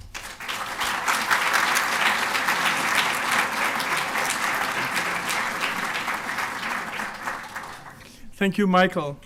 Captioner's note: applause